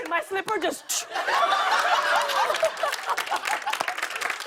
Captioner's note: laughter and applause